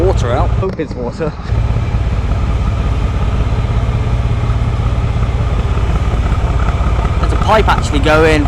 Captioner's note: narrowboat engine sounds